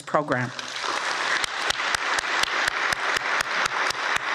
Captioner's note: audience applauds